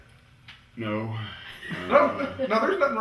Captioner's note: laughter